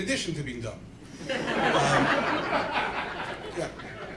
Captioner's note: laughter